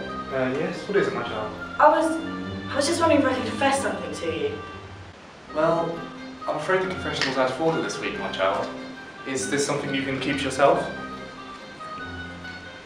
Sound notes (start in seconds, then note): none